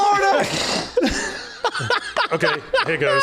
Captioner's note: laughs